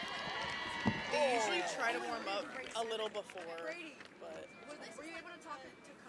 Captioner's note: cheering; chatter